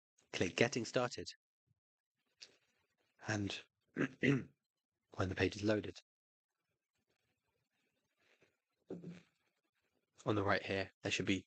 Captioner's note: coughs